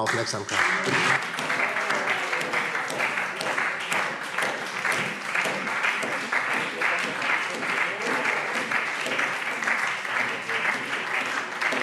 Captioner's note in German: Beifall : Oh, oh, oh!